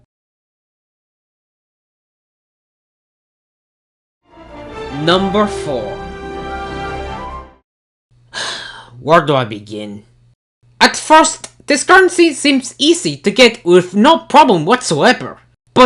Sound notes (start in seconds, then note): 8.3 sigh